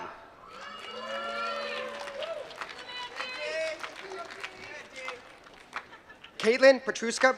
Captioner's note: applause